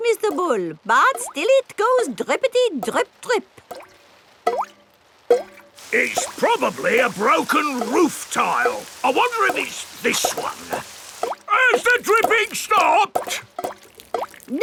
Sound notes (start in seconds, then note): 5.1 water dripping